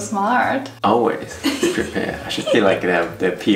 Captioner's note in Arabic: يضحك